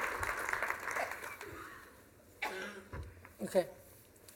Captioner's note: coughs